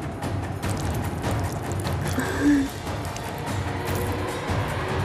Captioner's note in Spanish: Sonido del orine al caer